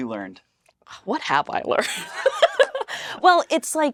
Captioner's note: laughs